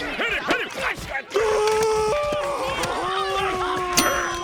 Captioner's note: screaming